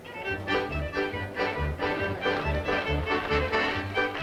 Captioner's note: all clapping rhythmically